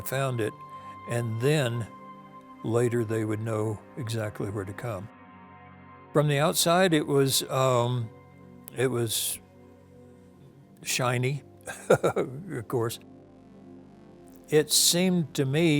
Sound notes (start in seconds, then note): 11.6 chuckles